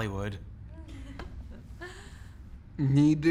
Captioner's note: chuckling